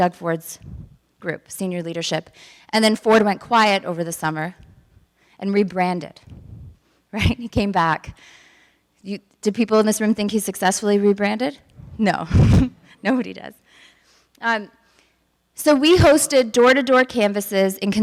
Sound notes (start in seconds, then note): 12.3 woman giggles